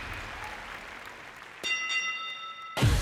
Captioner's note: bell clangs